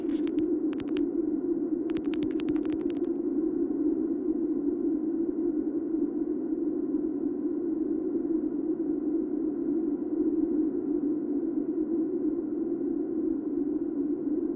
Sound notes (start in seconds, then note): 1.9 insect footsteps